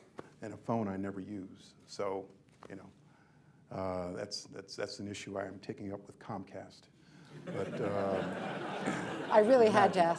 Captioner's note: laughter